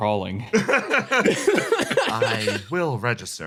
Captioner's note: laughs